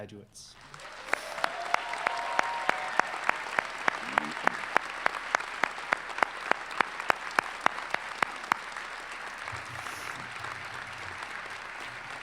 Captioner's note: applause